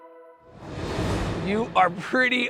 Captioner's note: graphics whooshing